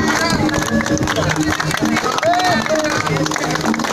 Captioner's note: applause